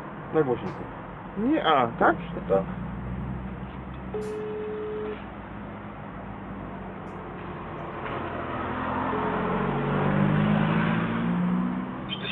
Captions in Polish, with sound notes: Daj głośniej... Nie... Aaa tak? (dźwięk sygnału telefonu)